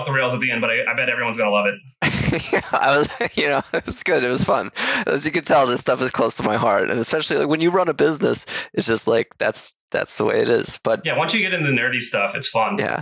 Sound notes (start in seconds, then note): 2.0 laughs